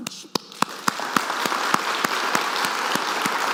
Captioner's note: audience claps